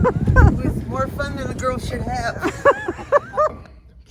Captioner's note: laughter